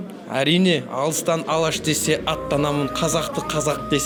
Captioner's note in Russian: Читает стихи на казахском